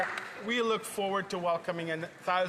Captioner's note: some Applause